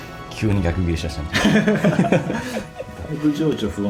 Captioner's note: laughs